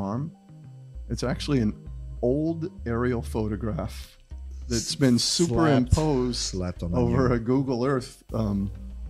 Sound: slapped

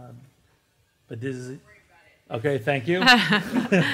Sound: voiceover; laughter

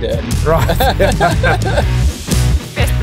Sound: laughing

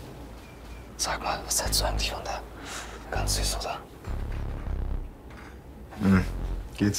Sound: whispers

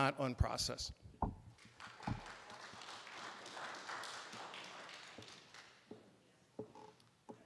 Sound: applause

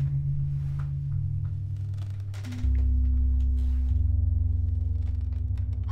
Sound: unsettling music continues; wood creaking

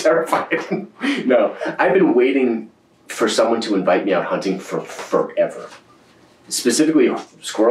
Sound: laughs

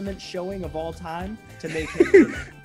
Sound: laugh

